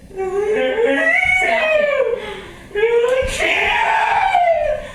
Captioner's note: screaming